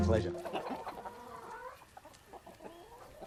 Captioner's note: chickens cluck